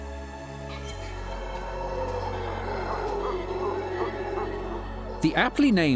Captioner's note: deep monkey howls